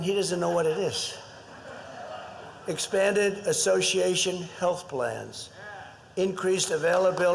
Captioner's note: laughter